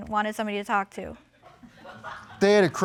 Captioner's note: audience laughing